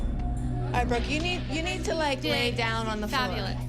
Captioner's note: none